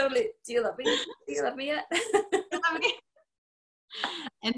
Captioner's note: laughter; laughter